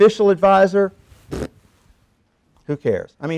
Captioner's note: blowing raspberries